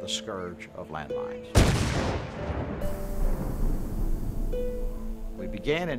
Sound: sounds of explosion

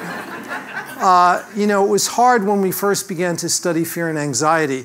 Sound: laugh

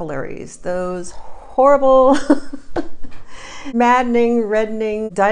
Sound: laughs

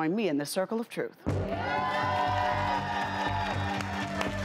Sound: applause

